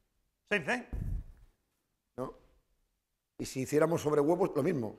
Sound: speaking spanish

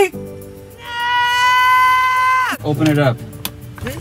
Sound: yelling

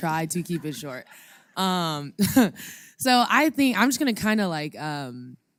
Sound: laugh

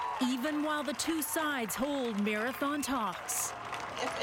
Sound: cheering and Applause

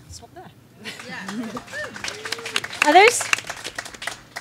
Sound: audience claps and cheers

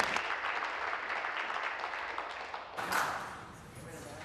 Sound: applause

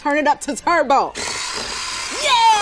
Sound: whirring

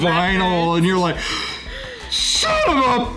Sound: man gasping

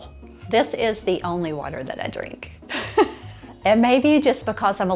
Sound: laughs

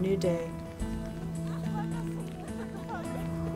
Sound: indistinct chatter

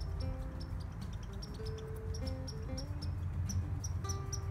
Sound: Chatty McChatty Squirrel chirping in a tree

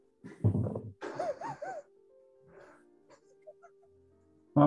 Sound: sniggering

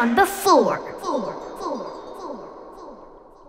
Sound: echoing

